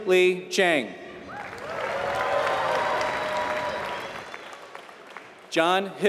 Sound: applause

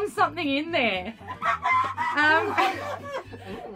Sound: looses it* laughing

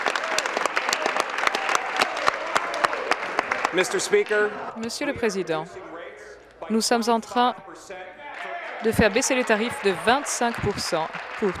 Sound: cheering; applause

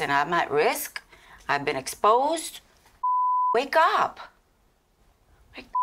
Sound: beep

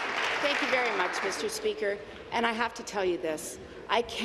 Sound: applause

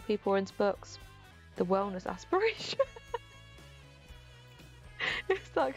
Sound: laughs

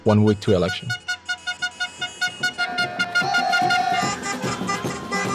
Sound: horns blaring; voiceover; people cheering; upbeat drum music

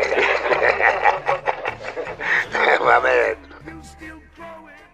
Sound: laughter

